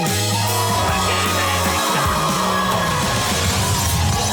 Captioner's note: audience cheering; shouting